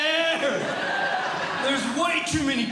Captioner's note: audience Laughing